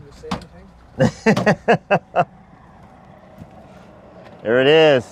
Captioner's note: laughs